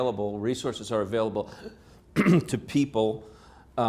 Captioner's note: clears throat